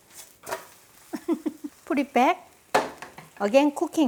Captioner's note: laughs